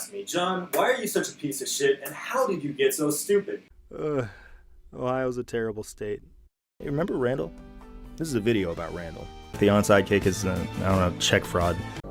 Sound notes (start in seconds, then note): 3.8 gentle pained groan